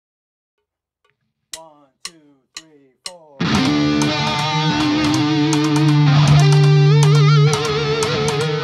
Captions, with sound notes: - One, two, three, four. (drum sticks clicking) (metal music)